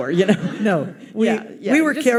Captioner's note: audience laughs